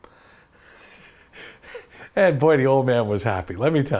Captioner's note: laughs